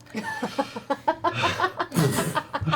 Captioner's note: laughs